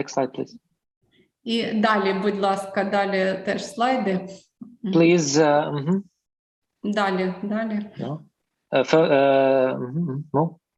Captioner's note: foreign Language